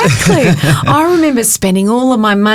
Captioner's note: chuckling